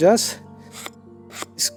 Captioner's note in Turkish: ıskarpelanın çıkardığı hışırt sesleri